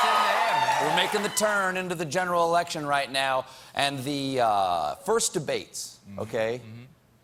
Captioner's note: cheers and applause